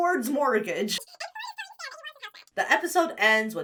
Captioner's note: voice speeds up